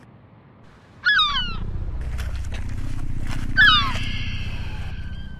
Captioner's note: gull squawking